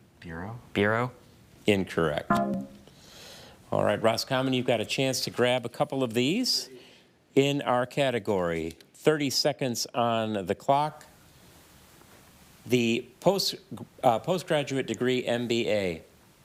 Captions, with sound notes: - Bureau? - Bureau. - Incorrect. (buzzer buzzes) All right, Roscommon, you've got a chance to grab a couple of these in our category. 30 seconds on the clock. The postgraduate degree MBA.